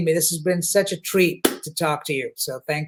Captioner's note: claps hands